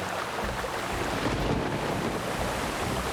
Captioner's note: water Rushing; thunderclap